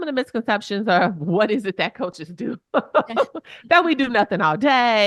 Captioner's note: chuckles